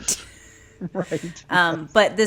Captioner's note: laughs